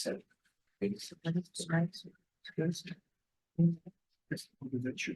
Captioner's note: attendees chattering